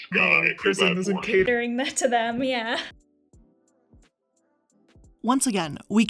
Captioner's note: chuckles